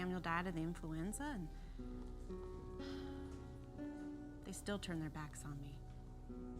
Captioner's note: sighs